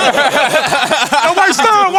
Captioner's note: laughter